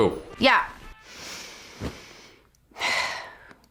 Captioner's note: sighs